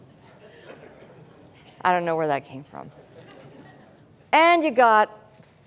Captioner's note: laughter